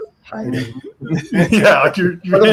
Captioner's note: laughs